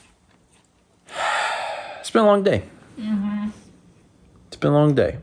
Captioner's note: long sigh